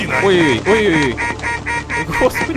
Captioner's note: goose in alarm mode